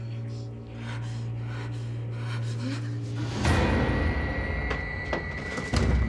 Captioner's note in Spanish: sollozos